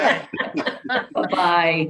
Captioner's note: laughing